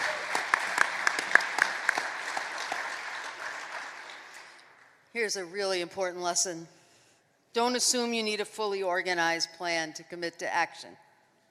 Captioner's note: applause